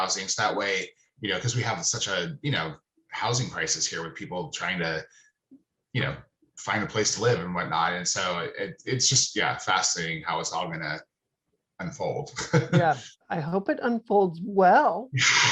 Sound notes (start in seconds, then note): 12.0 laughing